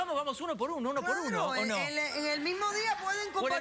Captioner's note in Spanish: risas